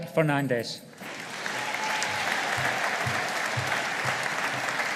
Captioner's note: audience applauding